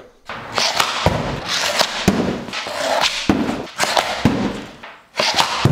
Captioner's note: stick scrapes against floor; puck thuds against backdrop